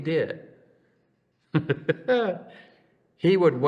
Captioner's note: laughs